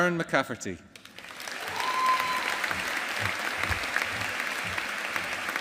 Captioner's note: audience applauding